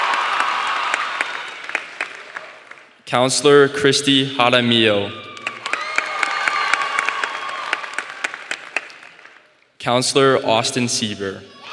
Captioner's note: applause